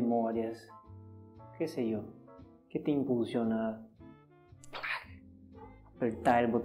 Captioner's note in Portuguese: som com a boca